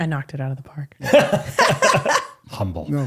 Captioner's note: all laughing